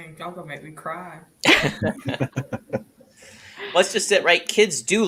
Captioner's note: laughing